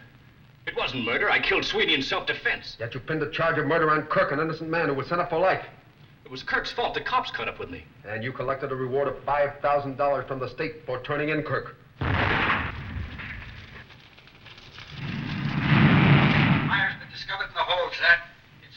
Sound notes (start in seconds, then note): 12.0 booming; 15.7 cracking